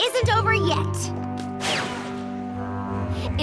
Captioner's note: whoosh